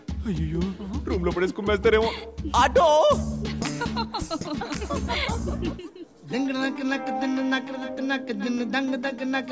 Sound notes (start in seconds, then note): 3.5 Laughs